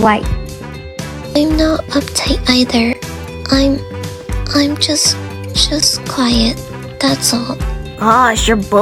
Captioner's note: quietly